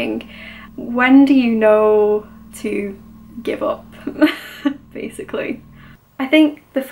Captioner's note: laughs